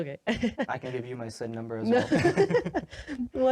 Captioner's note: laughs